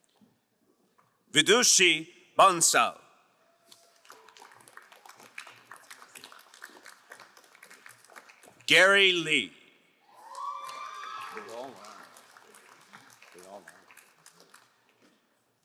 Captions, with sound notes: Gidushi Vansal. (crowd applauding) Gary Lee. (crowd cheering and applauding)